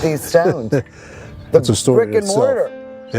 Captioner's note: laughing